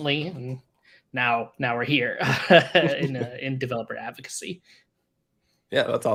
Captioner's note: laughs